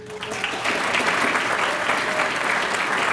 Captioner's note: applause